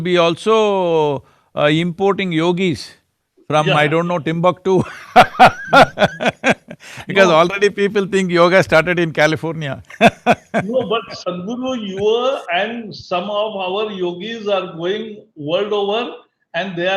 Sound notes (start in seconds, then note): 5.3 laughs